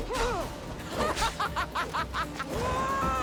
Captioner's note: laughs